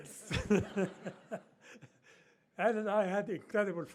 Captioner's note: laughs